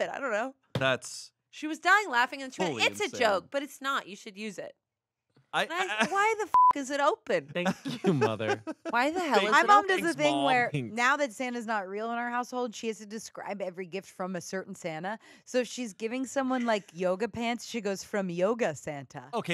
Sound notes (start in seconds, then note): 6.5 beep